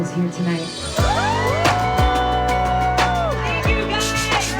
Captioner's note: crowd cheering